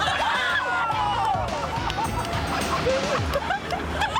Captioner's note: laughter